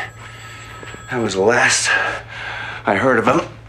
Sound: ringing continues

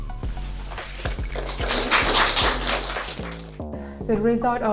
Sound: applause

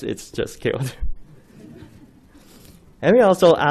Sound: laughing

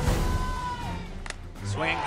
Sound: ball connecting with bat

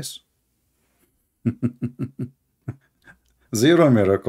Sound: Ketawa

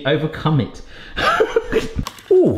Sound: laughing

